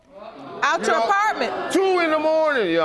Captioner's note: audience gasping